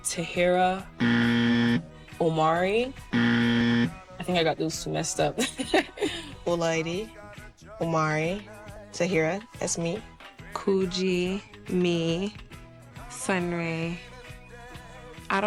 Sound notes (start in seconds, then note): 3.0 buzzer